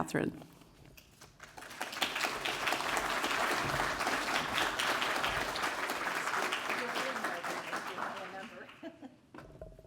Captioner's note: applause